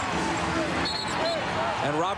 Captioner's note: whistle blows